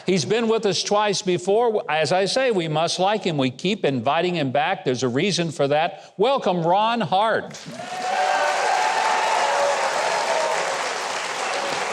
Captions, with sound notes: He's been with us twice before, as I say, we must like him. We keep inviting him back, there's a reason for that, welcome Ron Hart. (Audience cheers)